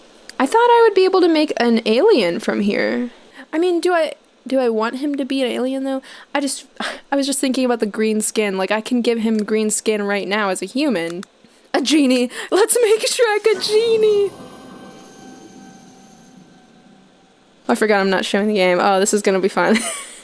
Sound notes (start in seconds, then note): 6.6 scoffs; 12.2 laughing